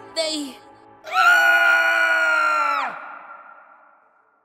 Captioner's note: scream